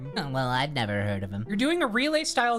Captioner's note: nerd voice